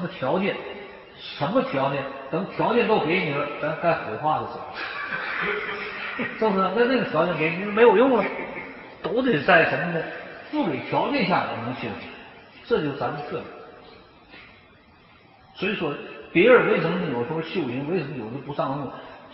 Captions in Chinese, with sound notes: 还要什么条件？ 等把条件都给你了 那是该火化的时候了 （大众笑）是不是？ 到时候这个条件给你也没有用了 都得在什么条件下呢？ 在不给条件的情况下我能修行 这就是咱们的特点 所以人修行为什么有时候不上路？